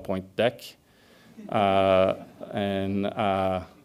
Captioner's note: audience laughs